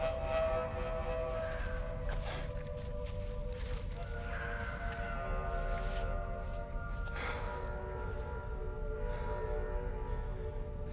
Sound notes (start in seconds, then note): 2.7 Christos panting; 2.7 eerie music